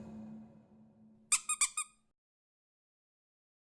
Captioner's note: squeaking